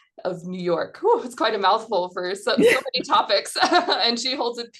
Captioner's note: laughs